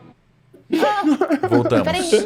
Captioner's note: laugh